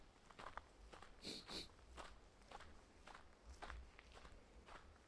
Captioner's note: sniffles